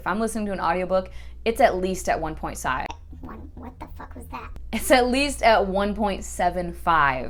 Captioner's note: high pitched voice